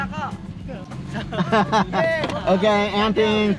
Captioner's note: men laugh